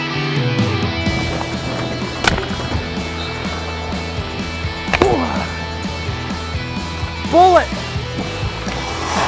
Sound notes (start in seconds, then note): 4.8 celebratory yell